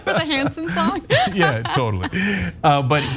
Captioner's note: laugh